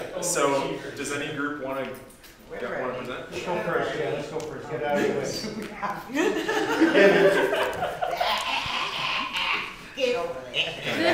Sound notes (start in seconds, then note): 6.1 laughter